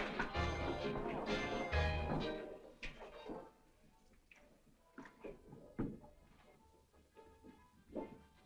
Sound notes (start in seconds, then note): 3.3 music stops